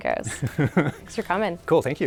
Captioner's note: laughing